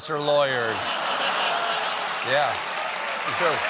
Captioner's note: laughter; applause